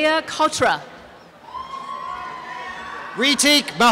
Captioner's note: applause and cheering